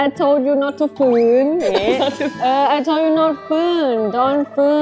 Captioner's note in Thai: เสียงหัวเราะ